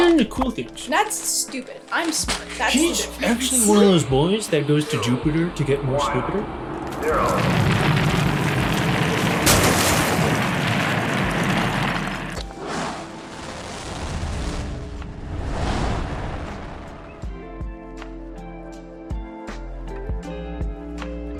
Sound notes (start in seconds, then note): 7.2 rocket thrusters; 8.8 crash; 8.8 rocket thrusters; 10.8 falling debris; 10.8 rocket thrusters; 12.4 distant rocket thrusters; 12.4 falling debris; 13.4 rocket thrusters; 14.6 heavy winds